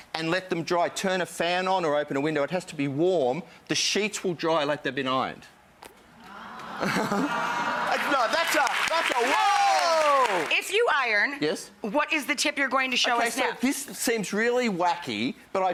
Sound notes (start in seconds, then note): 6.2 audience cheers; 8.7 audience applauds